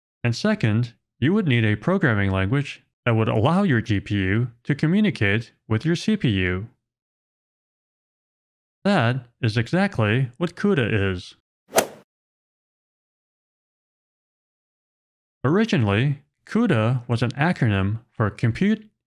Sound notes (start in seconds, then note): 11.8 golf ball hit sound effect